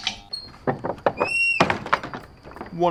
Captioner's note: door opens and closes